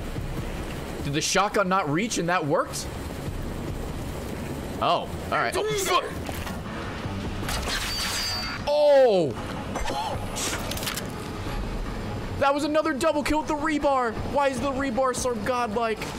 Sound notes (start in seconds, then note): 9.8 laughs